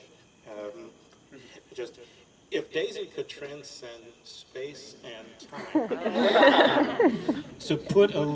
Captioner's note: laughter